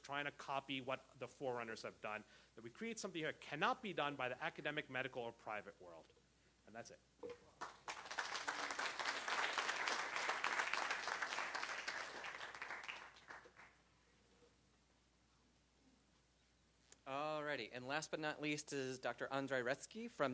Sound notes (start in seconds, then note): 11.0 applause